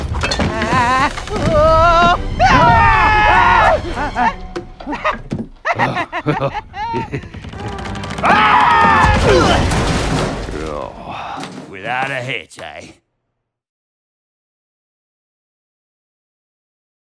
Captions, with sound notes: Ah, whoa. [screaming] [nervous laughter] [screaming] Oof. Ugh. Without a hitch, eh?